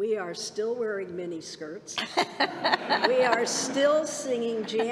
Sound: laughter

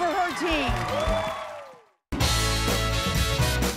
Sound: cheers and applause

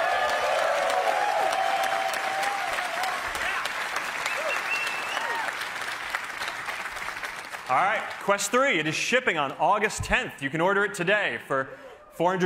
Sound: cheers and applause

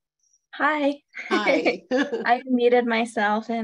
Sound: laughs

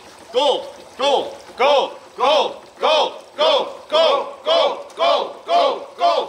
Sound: shouting repetitively

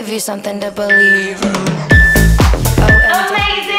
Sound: timer beeping

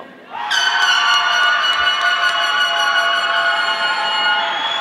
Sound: audience applauding

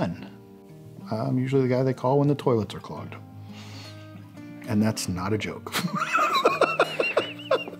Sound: laughs

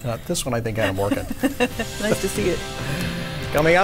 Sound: chuckles

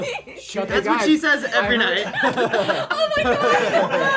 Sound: chuckles

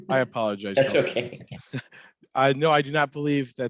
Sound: laughs

